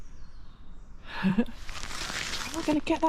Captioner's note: chuckles